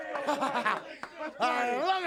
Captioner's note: Flair laughs